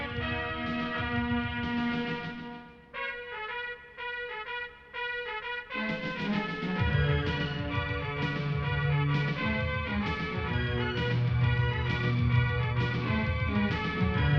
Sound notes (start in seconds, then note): none